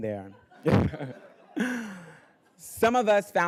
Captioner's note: everybody laughing